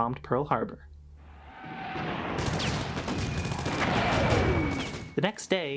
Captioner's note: screams of the souls lost on that horrid day; increasing sounds of gunfire, as whistles of bombs pass